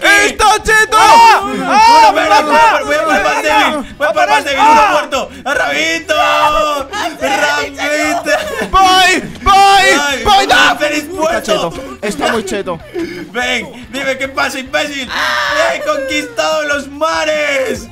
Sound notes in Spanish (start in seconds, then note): 0.0 Grita; 4.9 Grita; 14.3 Grita